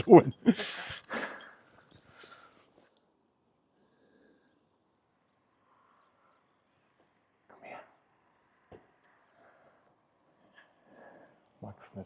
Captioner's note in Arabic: يضحك